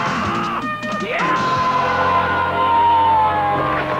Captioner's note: man screams